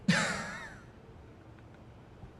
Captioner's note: laughing